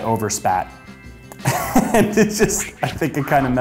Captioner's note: laughs